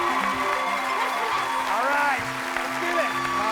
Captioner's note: cheers and applause